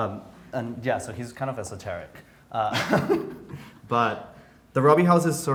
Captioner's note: laughs